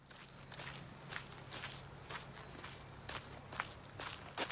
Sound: gravel crunching, crickets chirping

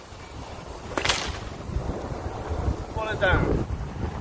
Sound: whip cracks

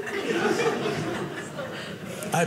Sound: audience laughing

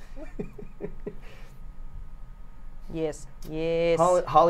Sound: chuckles

